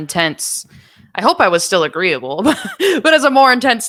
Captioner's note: laughing